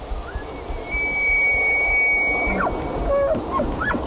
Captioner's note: elk bugling